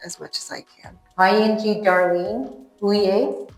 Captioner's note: speaking Southern Tutchone